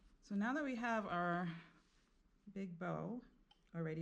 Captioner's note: none